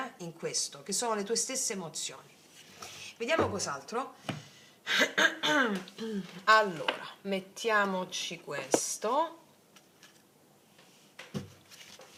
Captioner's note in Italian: schiarire la voce